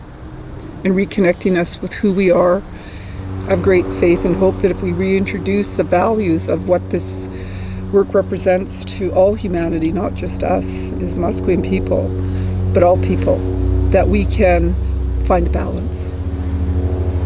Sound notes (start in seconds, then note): 3.6 plane taking off